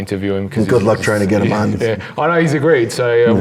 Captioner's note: murmurs